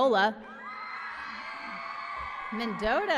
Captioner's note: applause and cheering